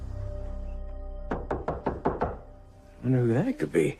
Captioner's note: knocking